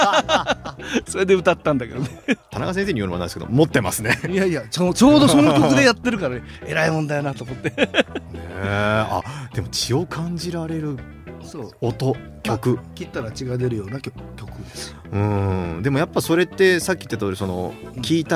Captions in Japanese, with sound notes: [笑い] 田中先生に言うのはないですけど持ってますね。 いやいや、ちょ、ちょうどその曲でやってるから偉い問題やなと思って [笑い] ねえ。あ、でも血を感じられるそう 音曲。 切ったら血が出るような曲です。 うん。でもやっぱそれってさっき言ってたその聞いたら忘れられなくなってずっと